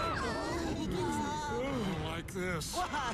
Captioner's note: screaming, mumbling